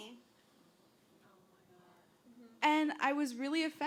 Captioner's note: voiceover